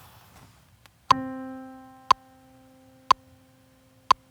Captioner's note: metronome